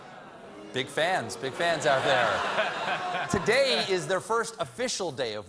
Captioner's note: booing